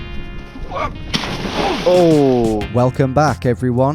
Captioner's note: water splashing